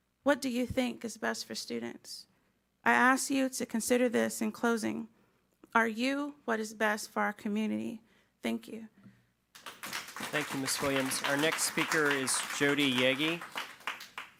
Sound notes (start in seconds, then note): 9.5 audience clapping